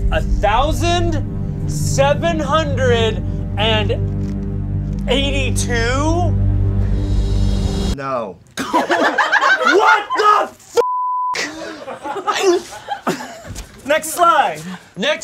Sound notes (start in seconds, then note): 8.6 audience laughs; 10.8 beep